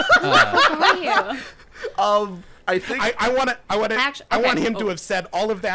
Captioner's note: laughing